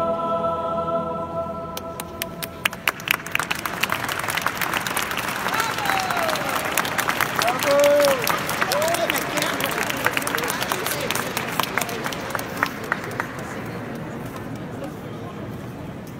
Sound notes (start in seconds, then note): 1.8 clapping and crowd noise